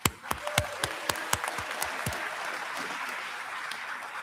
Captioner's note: applause